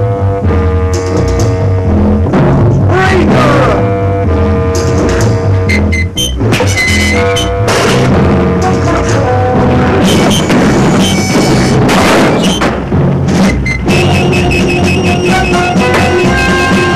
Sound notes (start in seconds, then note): 0.5 tense music; 5.4 dramatic music; 8.2 lantern clatters; 11.5 dramatic music